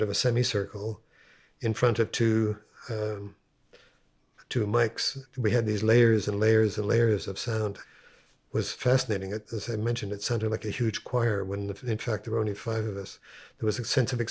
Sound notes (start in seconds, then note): none